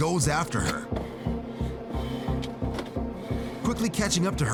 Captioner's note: breathing heavily